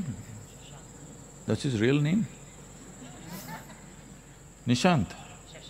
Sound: laughter

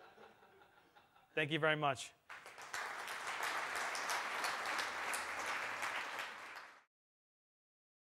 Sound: clapping

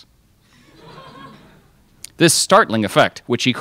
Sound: crowd laughs

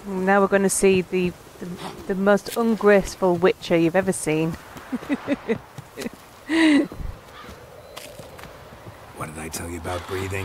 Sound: laughs

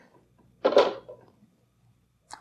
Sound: clunk

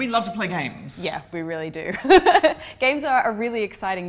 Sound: laugh

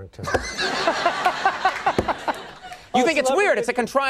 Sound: laughing

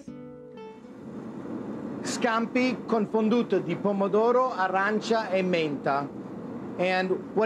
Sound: speaking in Italian

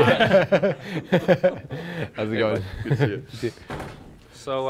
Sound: laughing

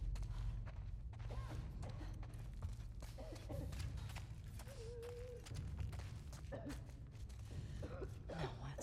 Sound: coughing

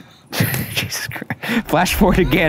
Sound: laughs

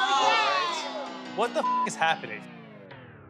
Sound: beep

